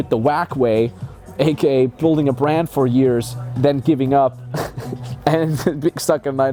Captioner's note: laughing